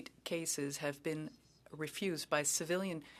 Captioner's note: speaking French